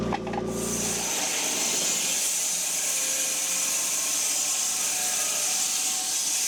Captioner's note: woodcutting machine hissing